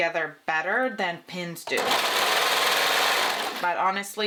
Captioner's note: sewing machine whirring